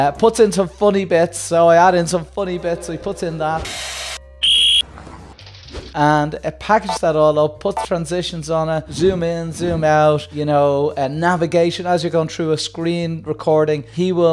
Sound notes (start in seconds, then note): 4.4 whistle